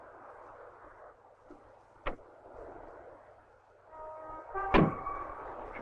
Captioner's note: door clicks and bangs